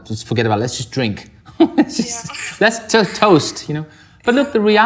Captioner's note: laughs